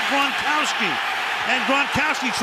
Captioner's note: cheering